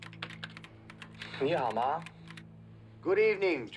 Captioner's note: speaking chinese